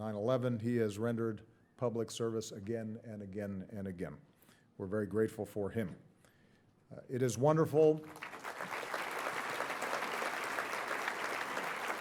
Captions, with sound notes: He has rendered public service again and again and again. We're very grateful for him. It is wonderful... (audience applauding)